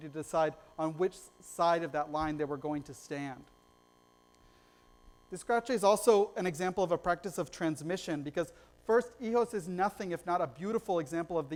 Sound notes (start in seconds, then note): none